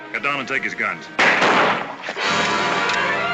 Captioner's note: gunshot; tense music